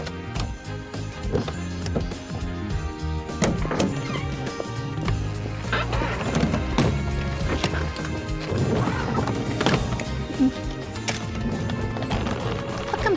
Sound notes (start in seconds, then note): 6.9 suitcases thudding